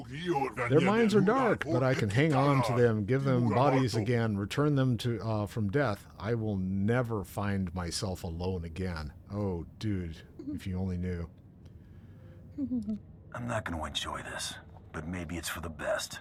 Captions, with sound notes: Their minds are dark, but I can hang on to them, give them bodies again, return them to, uh, from death. I will never find myself alone again. Oh, dude, if you only knew. [chuckles] I'm not gonna enjoy this, but maybe it's for the best.